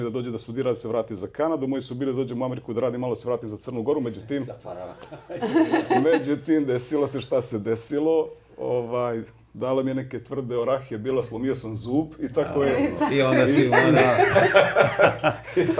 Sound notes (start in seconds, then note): 4.1 laughs; 12.4 laughs